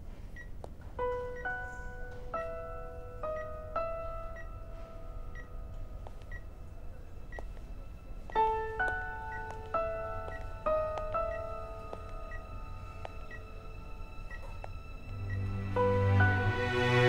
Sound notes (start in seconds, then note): 0.0 Door opening; 0.0 Footsteps; 0.3 Beeping sound; 6.1 Footsteps; 12.3 Beeping sound